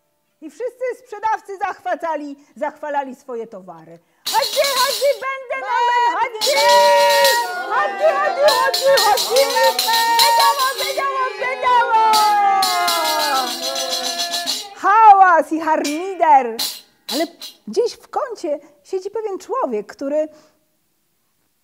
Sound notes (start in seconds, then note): 4.2 shouting in Turkish